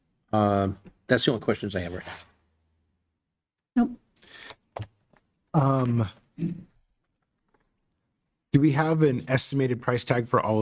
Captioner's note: clears throat